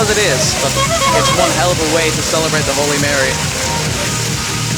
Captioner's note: honk